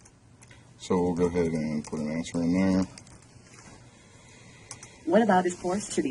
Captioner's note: typing sounds